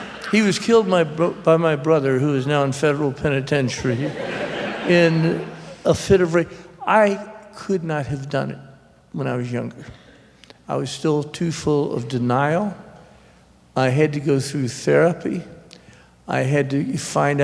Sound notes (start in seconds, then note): 3.6 subdued laughter